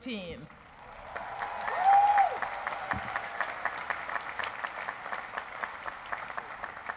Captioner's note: applause